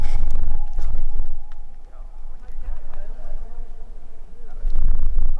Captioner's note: multiple voices talking